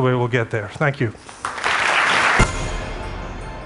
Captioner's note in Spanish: Aplausos